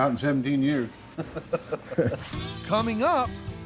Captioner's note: laughing